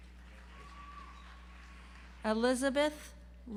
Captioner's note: audience applauds